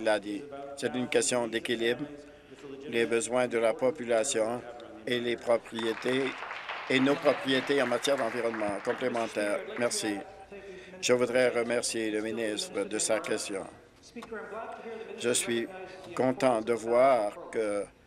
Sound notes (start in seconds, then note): 8.7 applause